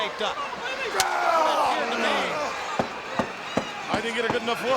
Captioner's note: crowd cheering; wrestlers grunting